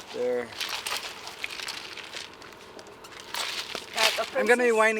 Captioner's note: loud clatters